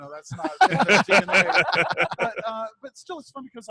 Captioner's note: all laughing